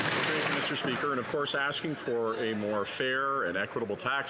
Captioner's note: some Applause